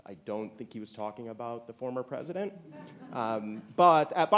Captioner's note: audience chuckling